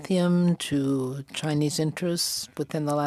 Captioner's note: speaking French